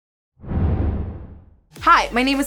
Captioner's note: whoosh